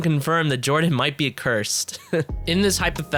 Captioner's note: laughs